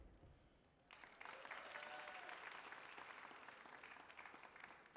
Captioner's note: feet stomping and hands clapping; audience applauding